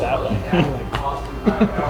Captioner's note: group laughing